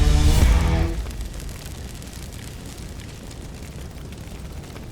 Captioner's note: fire Crackling